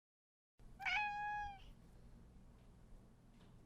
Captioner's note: meow